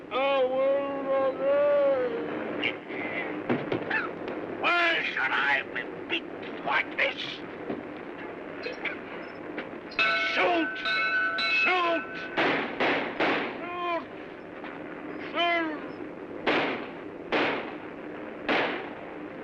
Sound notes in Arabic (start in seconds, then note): 3.8 تذمر و سعال; 9.9 يرن الجرس; 12.3 إطلاق نار; 17.2 اطلاق نار